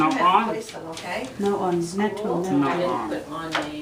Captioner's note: voiceover